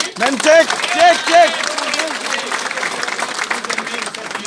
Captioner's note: clapping